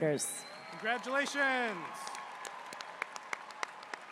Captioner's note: applause